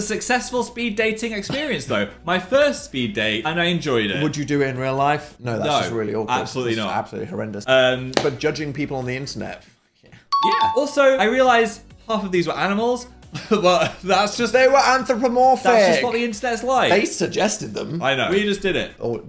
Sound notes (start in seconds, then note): 10.3 bell dings; 13.5 laughs